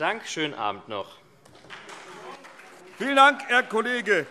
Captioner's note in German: Beifall SPD, vereinzelt CDU und BÜNDNIS 90/DIE GRÜNEN